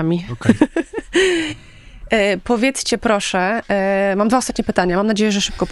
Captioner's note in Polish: śmiech